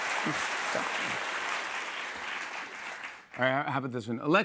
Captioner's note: applause